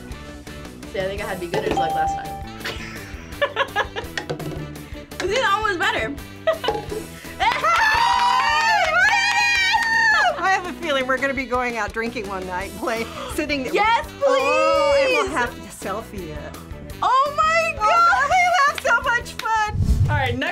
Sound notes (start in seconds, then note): 1.7 bell rings; 2.6 laughs; 13.0 gasps